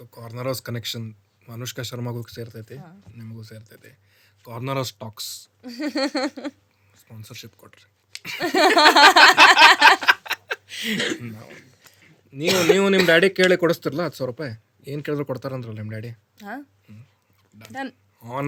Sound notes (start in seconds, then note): 8.3 both laugh